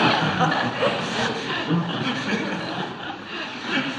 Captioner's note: laughter